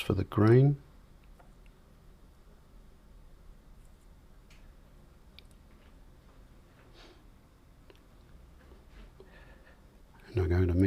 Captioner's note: silence